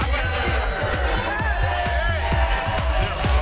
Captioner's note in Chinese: 歡呼聲和掌聲